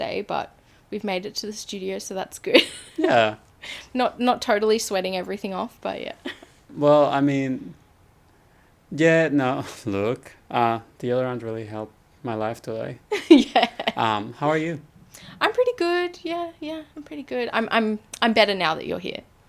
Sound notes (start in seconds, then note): 13.1 laughs